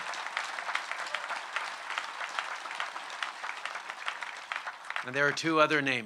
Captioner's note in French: Applaudissements